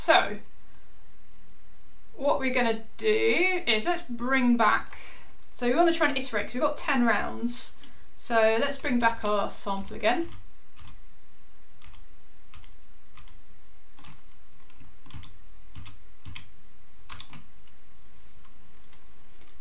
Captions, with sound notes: So what we're gonna do is let's bring back. So you wanna try iterate. You go 10 rounds. So let's bring back our sample again. (keyboard clicking)